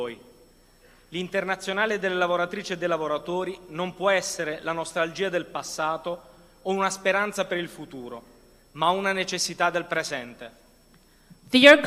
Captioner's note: speaking non-english language